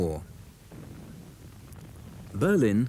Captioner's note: shell booms